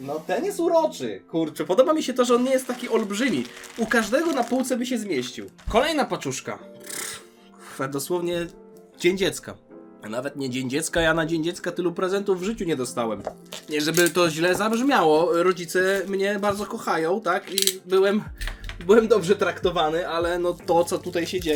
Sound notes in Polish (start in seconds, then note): 6.8 parsknięcie